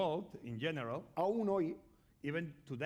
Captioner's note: speaking spanish